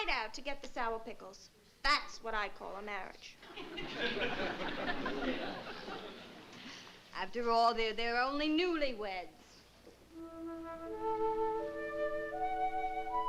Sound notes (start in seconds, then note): 3.4 laughter; 10.1 somber music